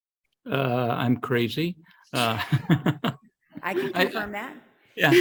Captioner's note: laughs